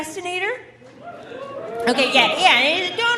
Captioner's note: audience cheering